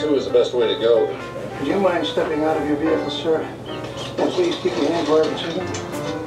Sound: audio of TV show in background

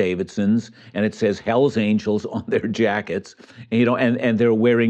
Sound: chuckles

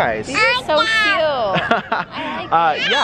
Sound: babbles

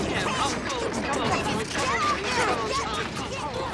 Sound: arguing and clattering

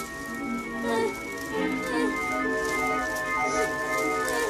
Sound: gasping; whimpers

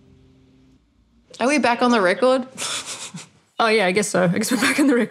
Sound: laughing

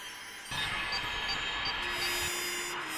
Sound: beeping

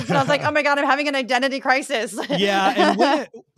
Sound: laugh

